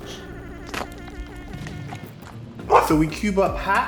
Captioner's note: Baby Felix chewing; dog barking